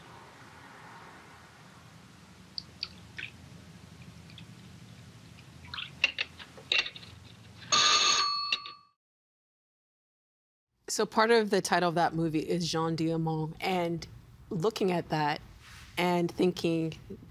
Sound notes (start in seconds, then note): 2.7 liquid sloshing; 7.6 phone ringing